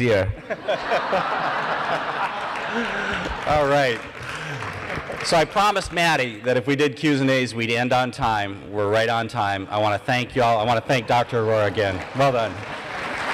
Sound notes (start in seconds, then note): 11.6 applause